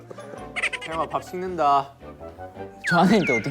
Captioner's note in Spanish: Riendo